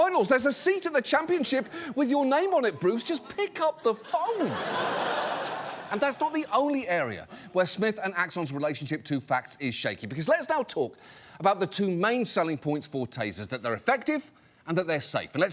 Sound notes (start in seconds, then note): 3.9 audience laughs